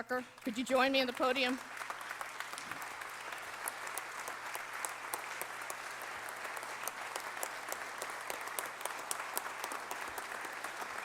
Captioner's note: applause